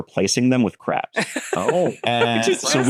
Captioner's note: laughs